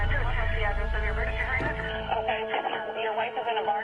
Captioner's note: overlapping chatter